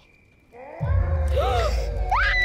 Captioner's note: Blueberry gasps; howling, roaring sounds; Sophie screams